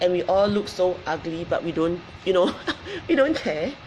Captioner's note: laughs